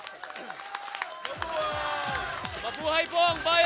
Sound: crowd

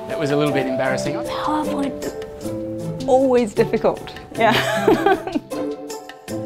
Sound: laughs

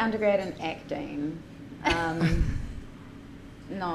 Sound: chuckle

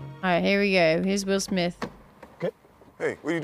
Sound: none

